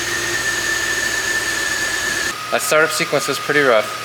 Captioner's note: idling decently